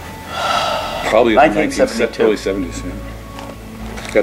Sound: sigh

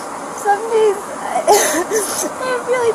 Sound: sobbing

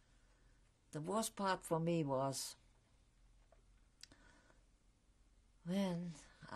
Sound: pauses for 3 seconds

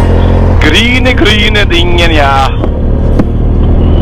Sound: German

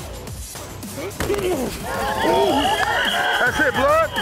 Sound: laughing; grunting; pads crunching

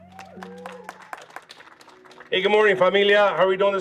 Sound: audience applauding

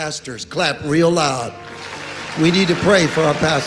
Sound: audience applauding

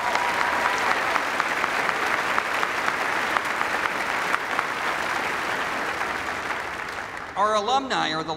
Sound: applause

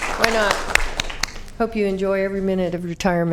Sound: applause

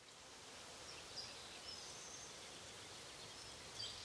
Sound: birds chirping

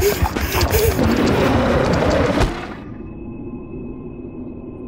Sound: Papi cries; scorpion growls; ominous music

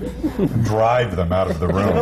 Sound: laughter

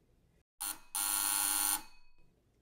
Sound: buzzer

